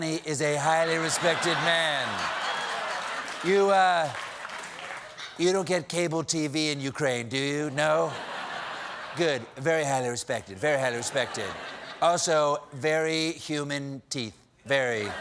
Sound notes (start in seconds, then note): 0.8 laughter; 1.4 applause